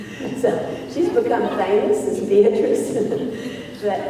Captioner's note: laughs